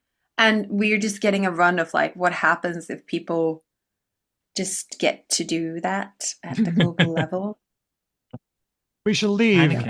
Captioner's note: laughs